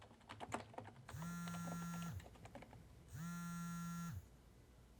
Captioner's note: cell phone buzzing